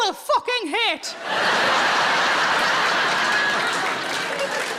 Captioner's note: audience laughing; audience applauding